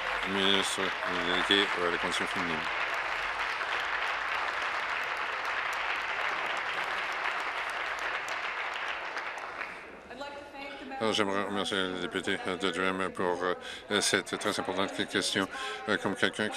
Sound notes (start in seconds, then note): 0.0 applause; 5.0 applause